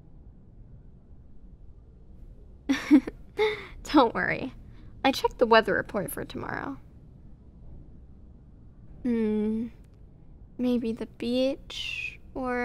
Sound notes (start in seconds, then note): 2.7 soft laugh